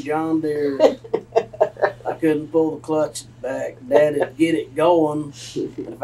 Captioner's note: laughter